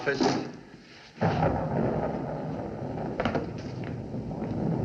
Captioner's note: thunderclap